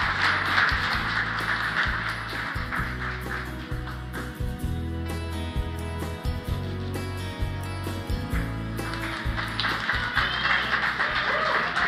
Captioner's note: applause